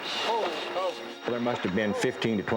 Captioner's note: men exclaiming